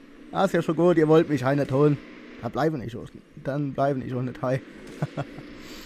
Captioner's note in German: Lacht